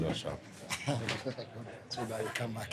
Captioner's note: laughs